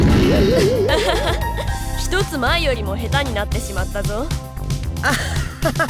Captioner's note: laugh; awkward laugh